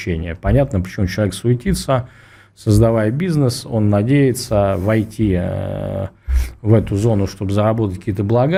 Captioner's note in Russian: фыркает